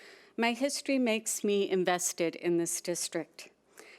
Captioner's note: none